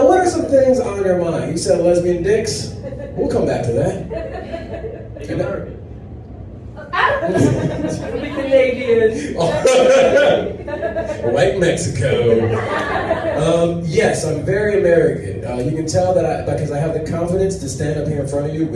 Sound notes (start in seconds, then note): 6.8 audience laughs